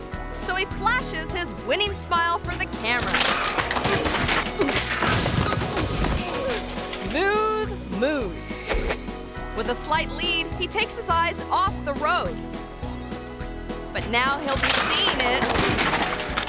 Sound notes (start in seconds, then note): 2.4 bicycle clattering; 3.0 people grunting; 12.7 upbeat music